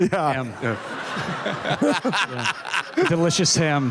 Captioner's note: laughter